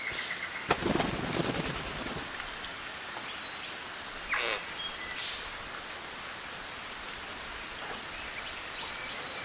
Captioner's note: rain, flapping and birds sounds